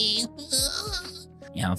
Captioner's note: cries